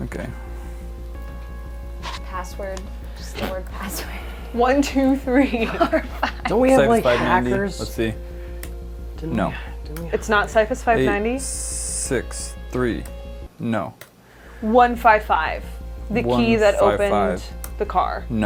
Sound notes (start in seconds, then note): 5.3 laughing a little